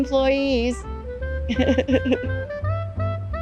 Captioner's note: laughs